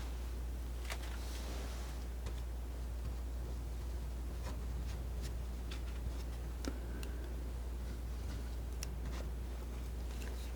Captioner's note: scratching